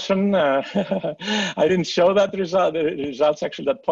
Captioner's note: laughs